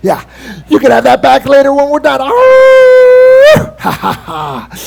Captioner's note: howls and laughs